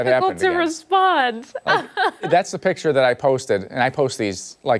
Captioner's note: laughter